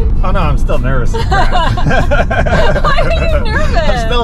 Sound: both laughing

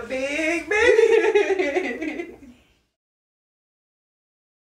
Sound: laughs

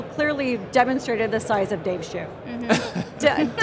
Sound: crowd chuckles

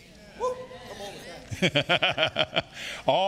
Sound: laughing

